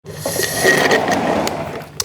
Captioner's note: slurp